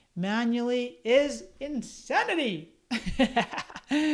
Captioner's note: laughs